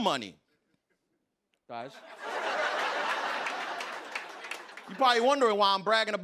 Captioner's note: laughter